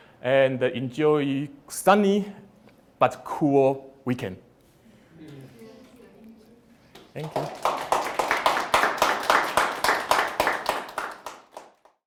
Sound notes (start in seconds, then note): 6.9 applause